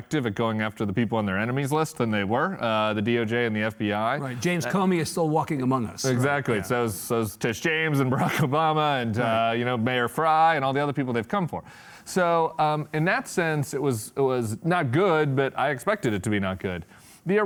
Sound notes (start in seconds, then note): 8.4 chuckles